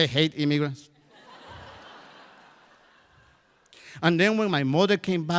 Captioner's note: crowd laughs